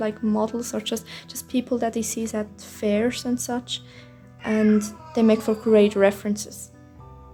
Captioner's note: meeoow